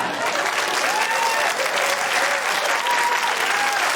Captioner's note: cheering, applause